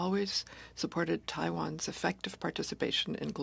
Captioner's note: speaking French